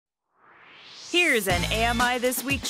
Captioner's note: swoosh